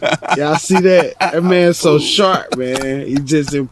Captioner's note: laughs